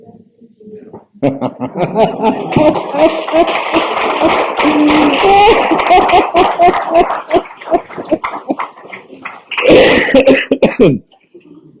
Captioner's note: laughter & clapping